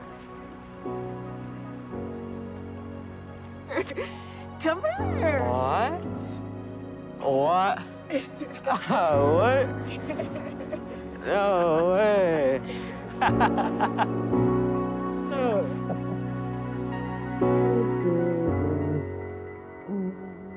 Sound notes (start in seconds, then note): 9.8 laughing; 13.0 gentle music; 16.9 gentle music continues